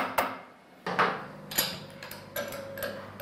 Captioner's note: quiet clatter